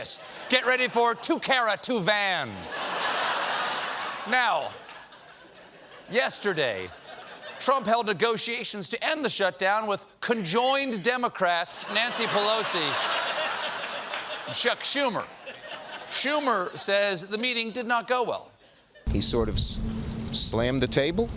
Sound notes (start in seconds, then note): 2.5 laughter